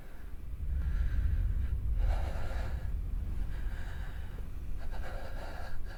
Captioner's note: Pete loudly breathing